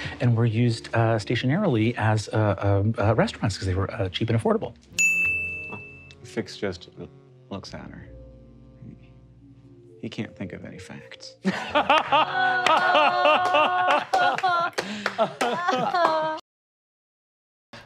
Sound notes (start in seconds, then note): 11.4 players laughing